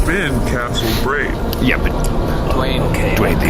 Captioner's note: scratching